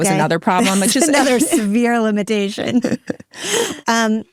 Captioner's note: laughs